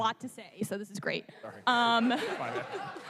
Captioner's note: laughter